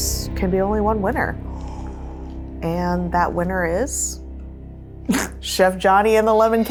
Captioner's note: laughs